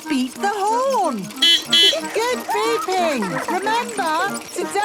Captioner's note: giggling; beeping